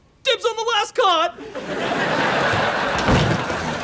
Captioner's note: laughs